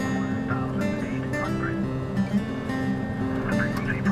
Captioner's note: man On Radio